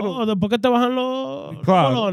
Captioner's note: speaking In Foreign Language